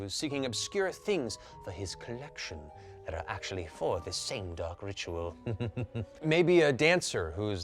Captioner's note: chuckles